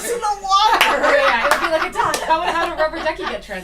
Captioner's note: laughter